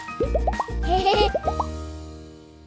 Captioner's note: laughter